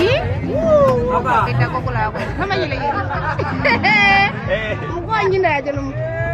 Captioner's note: woman speaking in foreign language